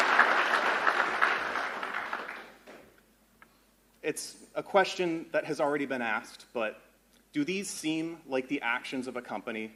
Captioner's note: applause